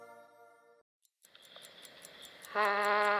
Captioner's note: clock ticking; vocalizing